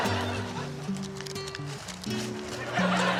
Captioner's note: audience laughs